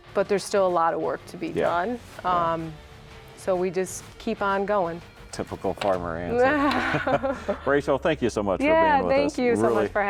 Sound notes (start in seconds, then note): 6.4 laugh